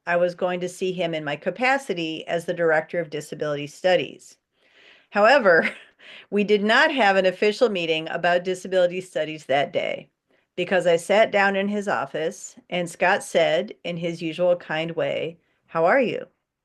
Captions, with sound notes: I was going to see him in my capacity as the director of Disability Studies. However, [chuckles] we did not have an official meeting about disability studies that day because I sat down in his office, and Scott said, in his usual kind way, “How are you?”